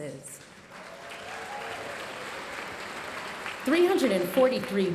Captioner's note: audience cheering and applauding